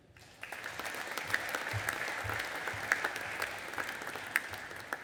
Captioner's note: audience applauding